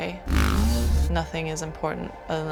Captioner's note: bike engine roars